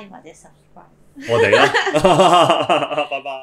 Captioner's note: laughs